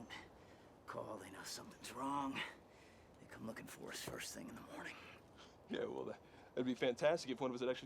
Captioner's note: none